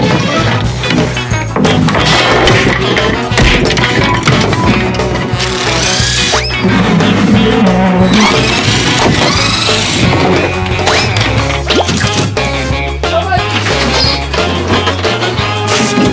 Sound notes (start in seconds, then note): 0.0 bouncy music; 3.2 cartoonish smacking; 5.4 drill whirring; 6.0 cartoonish whistling; 7.4 wood scraping; 8.1 drill whirring; 8.3 wood banging; 12.0 bouncy music continues